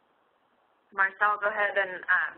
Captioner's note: voiceover